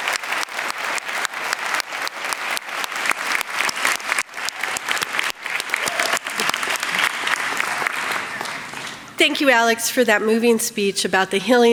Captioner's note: applause